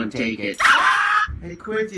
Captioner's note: dog barking